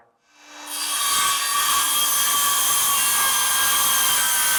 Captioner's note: circular saw whirring